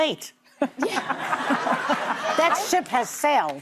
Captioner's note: audience laughs